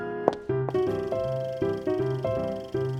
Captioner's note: film reel rolling